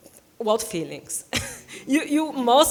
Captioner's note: scoffing